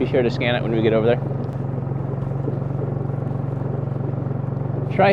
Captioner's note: engine buzzing